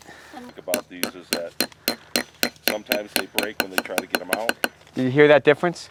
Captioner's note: hammer taps slowly increase in pitch